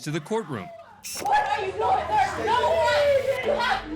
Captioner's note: indistinct chatter, screaming